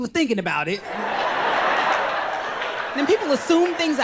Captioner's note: crowd laughs